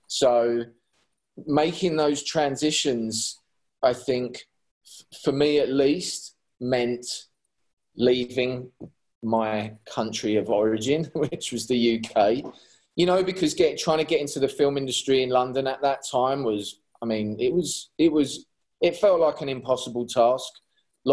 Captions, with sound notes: So, making those transitions, I think, for me at least, meant leaving my country of origin (chuckles) which was the UK. You know because trying to get into the film industry in London at that time was, I mean, it was, it felt like an impossible task.